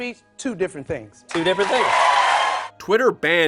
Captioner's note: audience cheers